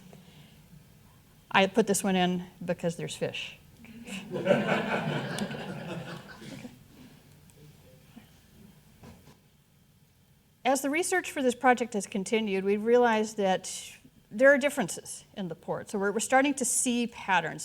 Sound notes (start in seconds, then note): 4.1 audience laughing